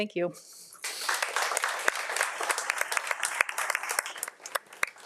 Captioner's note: audience applauds